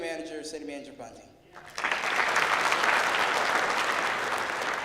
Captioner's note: clapping